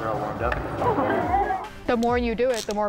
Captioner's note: laughter